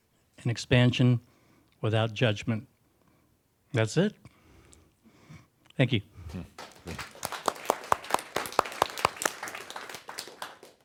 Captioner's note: applause